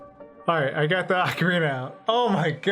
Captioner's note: sighs